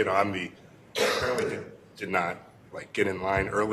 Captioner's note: cough